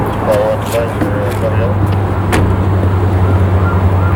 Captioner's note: faintly speaking